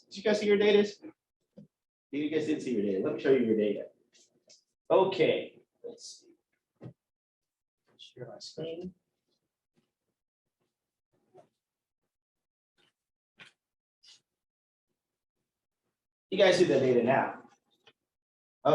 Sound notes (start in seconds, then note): none